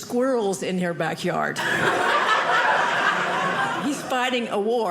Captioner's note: audience laughing